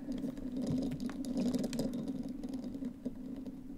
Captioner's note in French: Uniquement le son de la toupie qui tourne